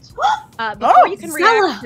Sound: gasps

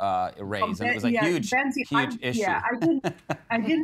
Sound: laughing

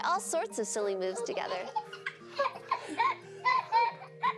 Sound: laughing and giggling

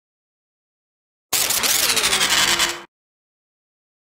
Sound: sound of robot

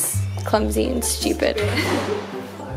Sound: laughs

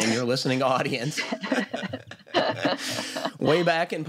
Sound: laughter

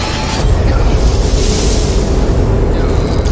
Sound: wind howls; straining

